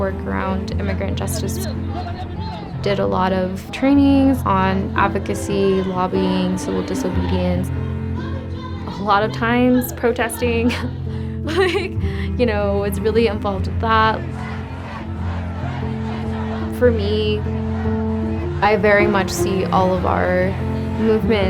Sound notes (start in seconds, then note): 9.7 laughing; 14.1 protest chanting